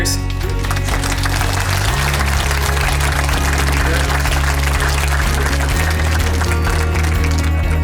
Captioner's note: audience applauds; upbeat music; upbeat music continues